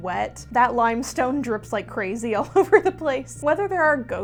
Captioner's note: laughing